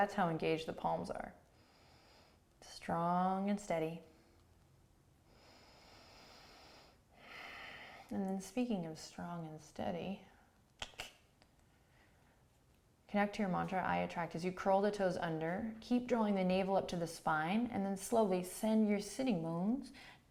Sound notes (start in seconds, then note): 5.2 breathing; 10.8 clicking tongue